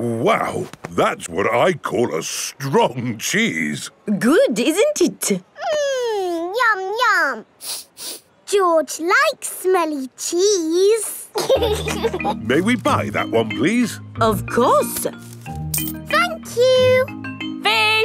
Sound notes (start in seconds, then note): 7.6 sniffs; 11.3 laughing